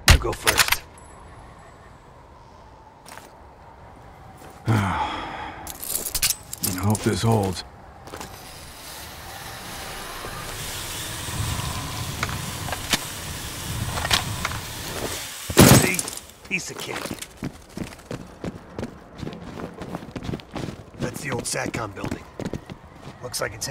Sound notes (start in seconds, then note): 4.6 sigh